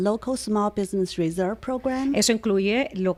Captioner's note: Hablando ingl\s